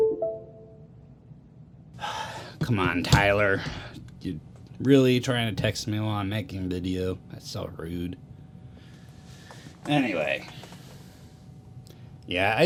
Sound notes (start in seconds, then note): 2.0 sigh